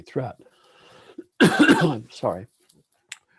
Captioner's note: coughs